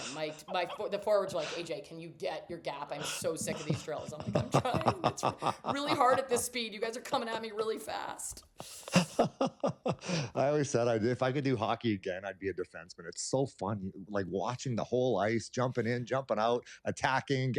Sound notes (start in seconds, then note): 8.6 laughs